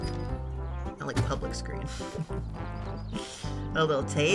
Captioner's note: laughs